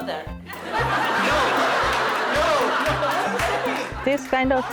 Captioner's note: audience laughing